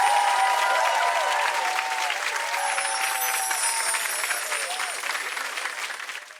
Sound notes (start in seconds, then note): 2.6 chiming